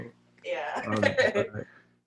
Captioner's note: laughs